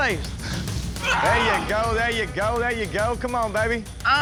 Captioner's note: grunting